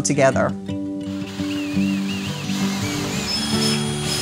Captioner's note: drill whirring